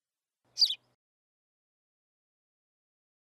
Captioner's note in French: chant d’oiseau